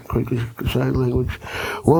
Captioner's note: speaking Woi Wurrung language